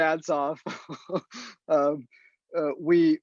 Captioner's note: laughs